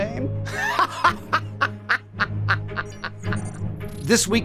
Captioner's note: Wilson laughing